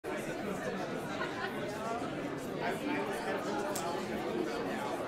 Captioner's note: overlapping chattering